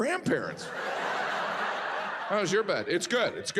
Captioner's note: audience laughs